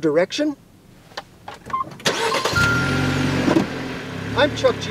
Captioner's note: start-up sound fx